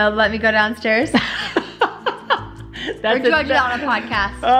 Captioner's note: laughing